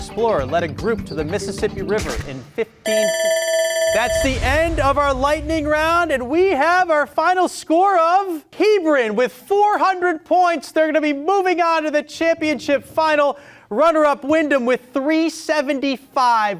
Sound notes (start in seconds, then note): 2.8 buzzer ringing